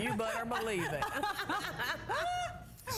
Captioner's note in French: laughter